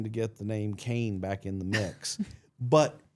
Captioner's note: blue vested chuckling